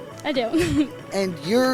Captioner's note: chuckles